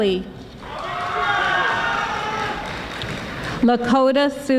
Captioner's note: audience applauding